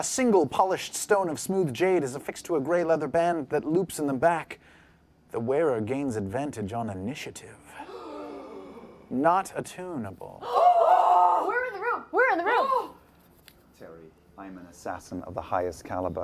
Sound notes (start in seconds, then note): 7.7 gasps; 10.4 louder excited gasps